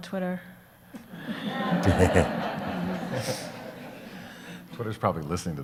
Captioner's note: audience laughs